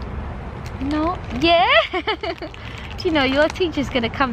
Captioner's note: laughs